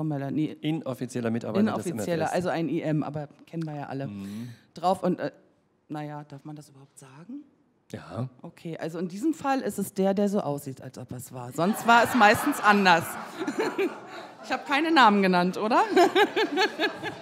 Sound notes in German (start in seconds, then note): 5.0 mit leiser Stimme; 11.6 anhaltendes Lachen des Publikums; 15.9 Lachen